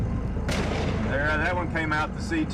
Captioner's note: gunshot